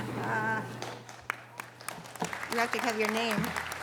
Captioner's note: audience applause